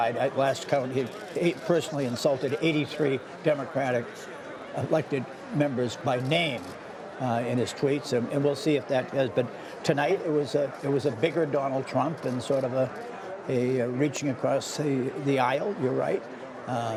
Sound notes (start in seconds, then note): none